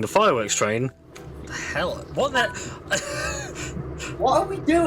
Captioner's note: wheeze